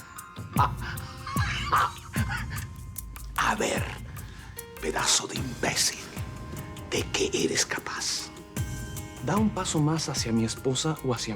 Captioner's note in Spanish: Risas